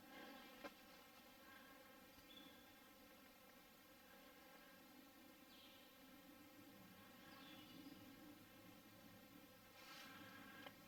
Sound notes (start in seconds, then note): 2.7 faint birds chirping